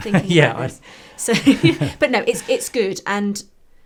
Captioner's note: laugh; laughs